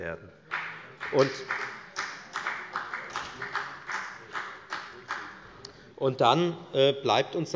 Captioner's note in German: Beifall bei der FDP